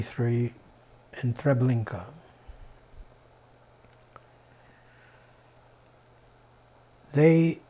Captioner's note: pauses 6 seconds